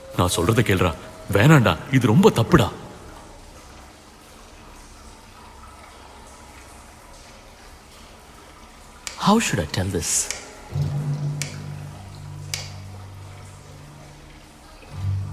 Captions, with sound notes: Please listen to me... Stop this, this is very wrong. How should I tell this? (Snaps fingers)